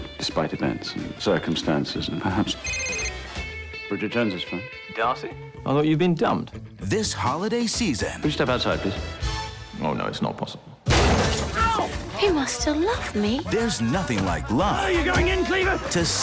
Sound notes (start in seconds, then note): 2.6 Jack’s phone rings; 10.8 doors get thrown open and fighting noises start